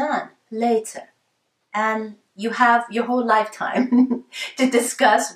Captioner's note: laughs